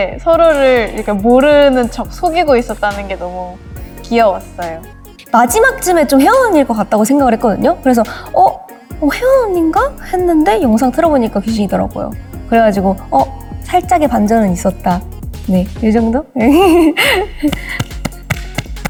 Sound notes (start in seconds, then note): 16.4 hehehehe; 17.5 clapping happily